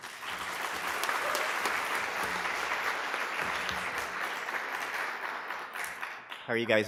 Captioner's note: applause